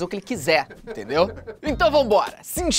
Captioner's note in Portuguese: risadas